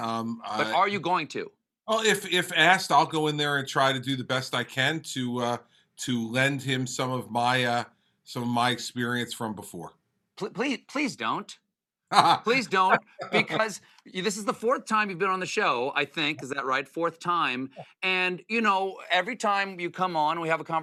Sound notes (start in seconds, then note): 12.1 laughter